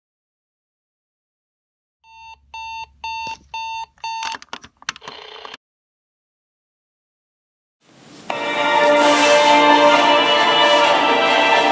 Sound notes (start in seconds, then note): 2.1 alarm beeping